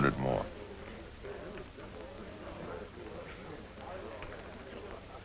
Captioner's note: chatter